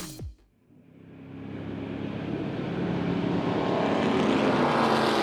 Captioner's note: car engine roaring